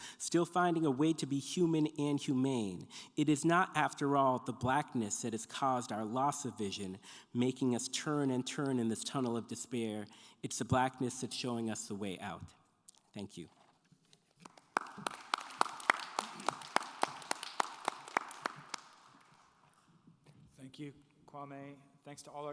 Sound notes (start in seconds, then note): 14.4 audience applauds